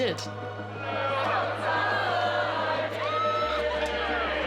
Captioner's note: crowd chanting